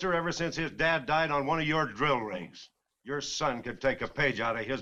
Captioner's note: none